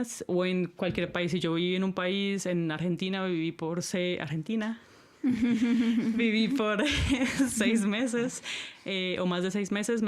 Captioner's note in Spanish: risas